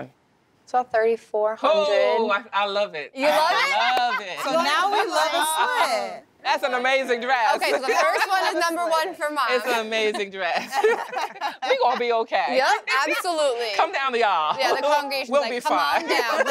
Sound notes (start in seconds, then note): 7.6 laughs; 9.8 laughter; 14.6 chuckles